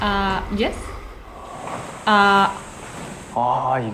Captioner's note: confused